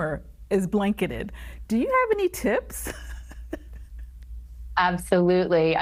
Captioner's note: laughs